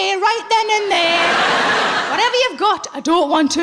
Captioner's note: laughing